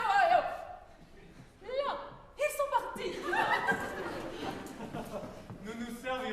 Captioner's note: general laughter